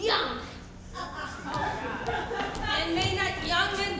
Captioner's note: audience chuckles